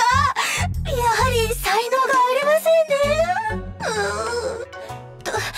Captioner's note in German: schluchz